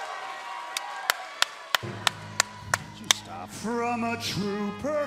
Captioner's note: crowd cheering